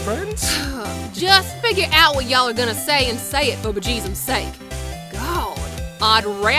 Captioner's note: sigh